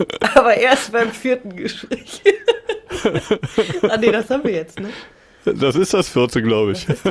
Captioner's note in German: gelächter